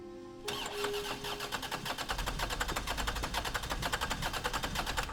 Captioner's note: car engine cranking